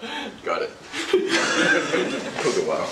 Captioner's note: laughter